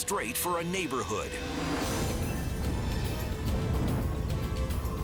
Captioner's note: fire roaring